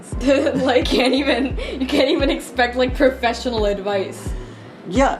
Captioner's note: laughing